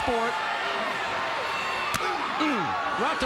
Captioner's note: crowd cheering; chop striking